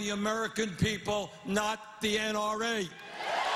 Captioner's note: cheers and applause